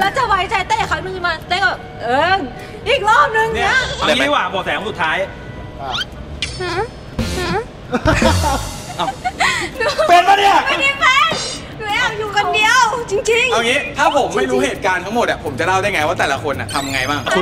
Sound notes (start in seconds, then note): 7.9 chuckles; 10.1 shouts